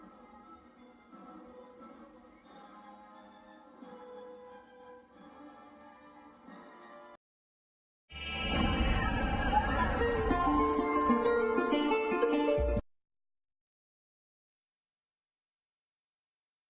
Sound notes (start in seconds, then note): 0.0 music playing on TV; 8.2 digital synth music playing; 12.9 silence